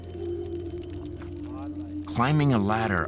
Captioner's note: fire crackling